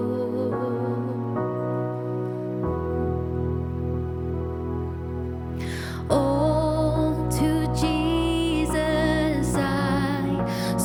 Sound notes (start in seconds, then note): none